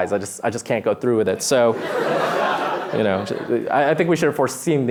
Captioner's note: laughter